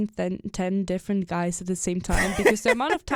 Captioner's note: chuckles